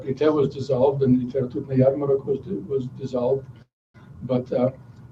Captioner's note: non-english speech